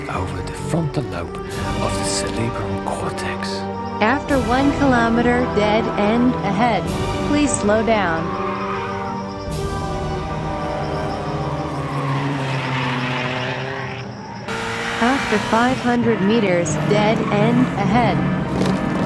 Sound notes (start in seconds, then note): 9.3 sweeping dramatic music; 11.4 sound of Ferrari accelerating in the distance